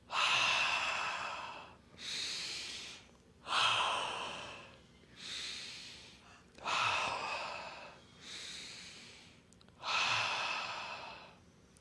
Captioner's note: inhales and exhales four times